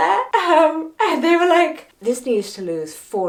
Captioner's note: chuckling